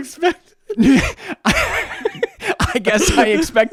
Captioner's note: both laughing